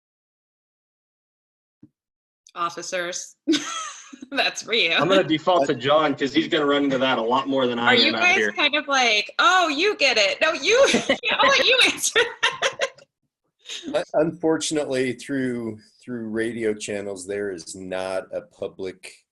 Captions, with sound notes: Officers. [laughter] That's for you. I'm gonna default to John because he's gonna run into that a lot more than I am out here. Are you guys kind of like, "Oh, you get it." " No, you get it." [laughter] "I'll let you answer it." Unfortunately, through radio channels there is not a public